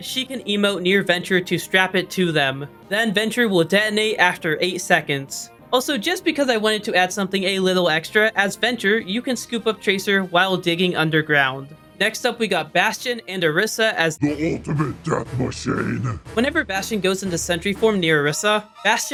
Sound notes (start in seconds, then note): 11.6 do nom sound effect